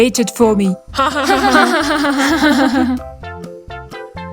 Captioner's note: all laugh